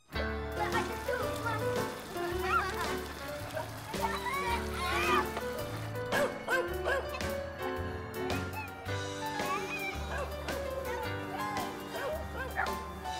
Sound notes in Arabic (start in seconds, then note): 0.1 أطفال يتحادثون; 0.1 موسيقى صاخبة; 6.1 نباح كلب; 6.3 موسيقى مبهجة